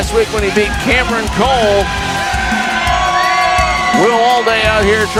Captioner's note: crowd cheering